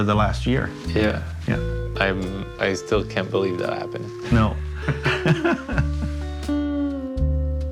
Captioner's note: laughter